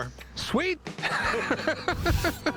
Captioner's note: laughs